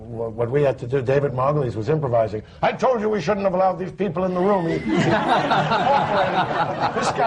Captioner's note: laughter